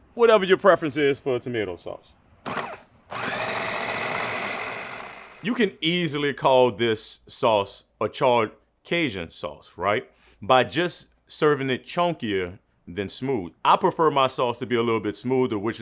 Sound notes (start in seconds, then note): 3.0 blender whirs